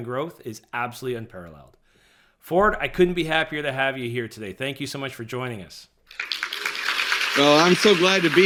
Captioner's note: applause sound effect